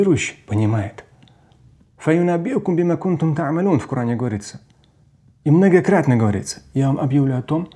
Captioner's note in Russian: Говорит на арабском